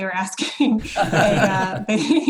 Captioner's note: laughs